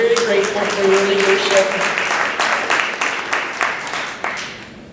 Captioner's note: applause